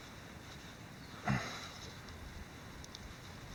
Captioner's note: grunting